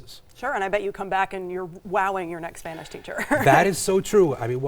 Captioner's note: chuckles